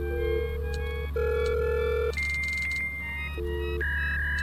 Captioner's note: computer humming